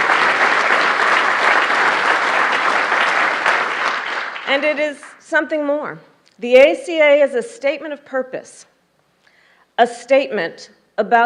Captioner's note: applause